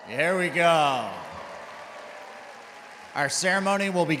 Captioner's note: crowd cheering